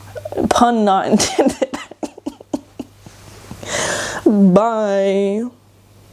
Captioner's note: giggles